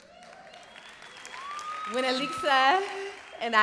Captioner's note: cheering